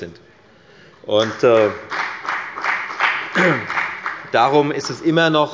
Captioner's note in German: Beifall bei der FDP